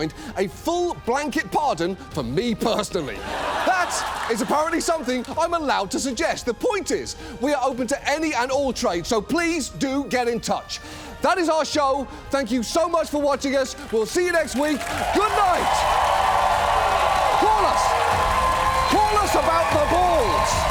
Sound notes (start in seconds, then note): 13.8 audience cheers, applauds